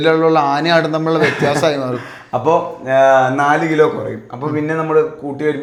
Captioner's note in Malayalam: പൊട്ടിച്ചിരി